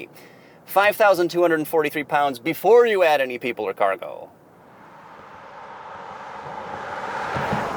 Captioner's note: car whooshing